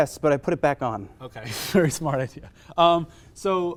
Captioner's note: scoff